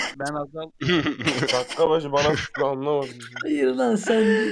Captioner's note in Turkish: gülme